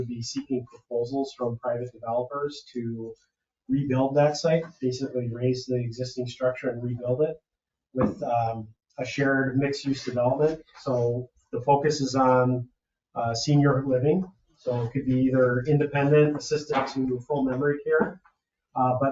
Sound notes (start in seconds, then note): none